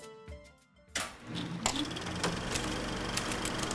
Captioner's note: projector clicking; typing